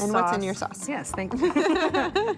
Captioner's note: laughter